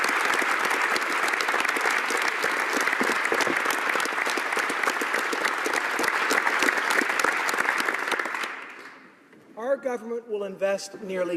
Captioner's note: applause